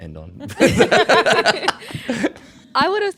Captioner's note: all laughing